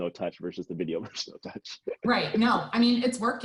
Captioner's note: laughs